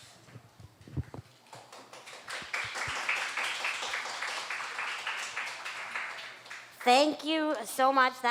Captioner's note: applause